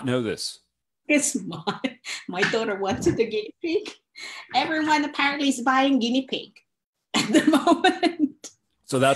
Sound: laughs

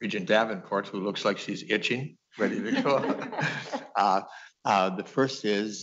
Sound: laughter

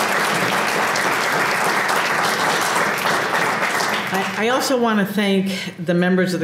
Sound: applause

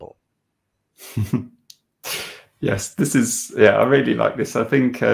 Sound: laughing

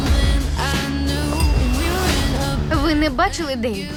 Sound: glasses clink

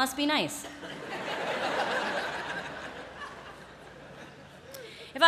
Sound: laughter

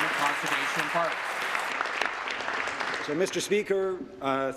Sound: applause

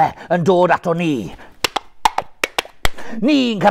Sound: clip clop clip clop

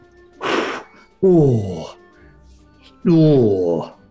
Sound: exhales

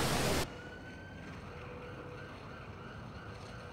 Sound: sirens

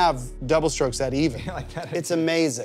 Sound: laughing

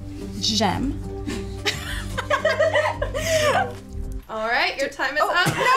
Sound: everyone laughs

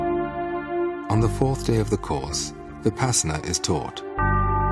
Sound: voice over

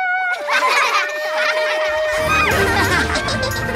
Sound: laughing

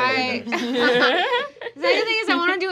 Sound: laughing

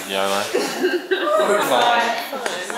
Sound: off stage laugh

